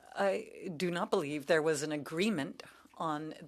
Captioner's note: speaking French